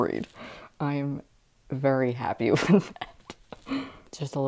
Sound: laughing

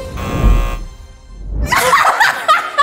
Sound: laughs

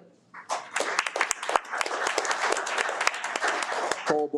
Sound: audience applauding

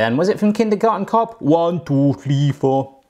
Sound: In Schwarzenegger voice

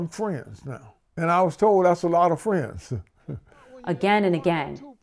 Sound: chuckles

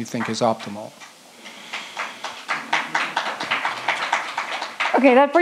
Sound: audience claps

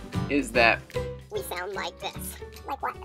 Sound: chipmunk voice

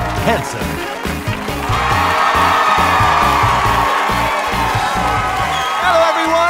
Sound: audience cheering

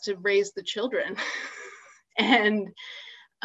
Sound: laughs

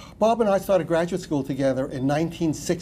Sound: none

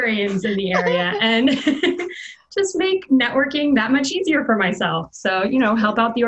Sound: laughs

